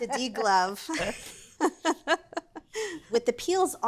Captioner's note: both laughing